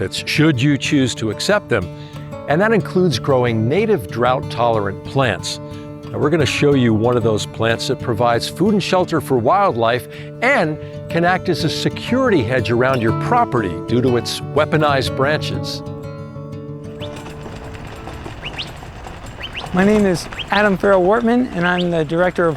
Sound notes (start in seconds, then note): 17.4 birds chirping